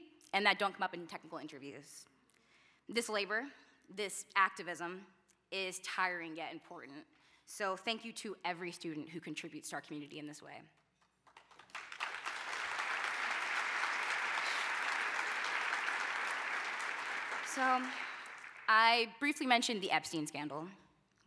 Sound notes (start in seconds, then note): 11.0 applause